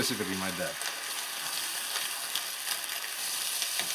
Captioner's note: sizzling